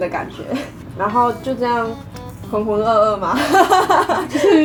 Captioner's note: laugh